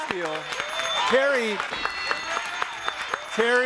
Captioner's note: audience applauding